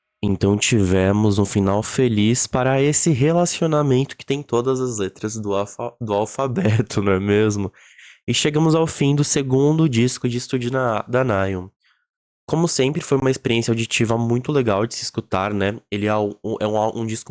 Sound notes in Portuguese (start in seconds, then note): 6.5 risos